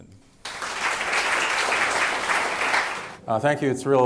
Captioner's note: audience applauding